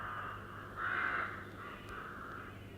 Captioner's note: crows caw